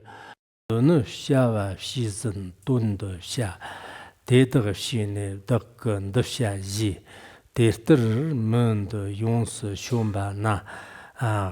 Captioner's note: giving oral transmission in Tibetan